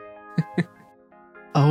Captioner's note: chuckles